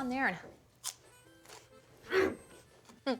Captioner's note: crunch